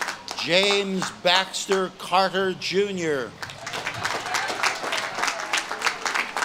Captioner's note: audience claps and cheers